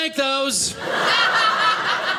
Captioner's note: audience laughing